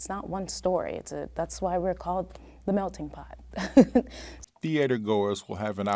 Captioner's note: laughs